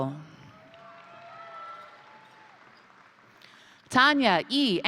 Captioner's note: crowd cheering; crowd applauding